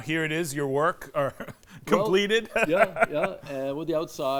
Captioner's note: laughs